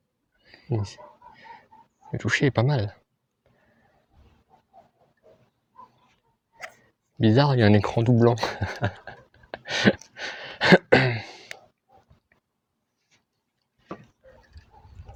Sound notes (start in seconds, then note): 8.1 laughs